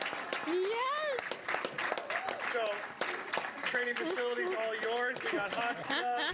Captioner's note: applause